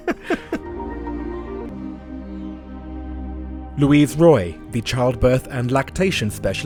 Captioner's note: voiceover